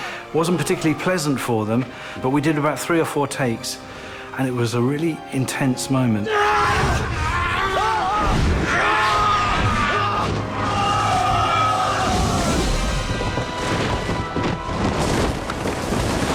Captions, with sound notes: lt wasn't particularly pleasant for them, but we did about three or four takes... ...and it was a really intense moment. [BOTH SCREAMING]